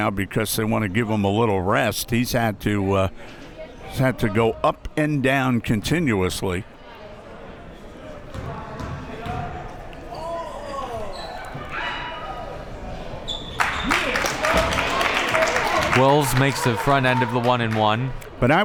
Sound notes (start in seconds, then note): 13.5 crowd applauding